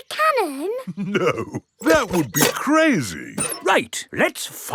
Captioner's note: chuckling